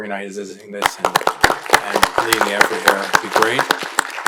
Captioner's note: audience applauding